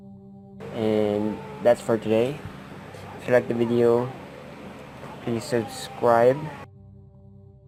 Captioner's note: baby sound